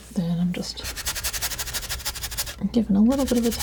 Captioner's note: scratching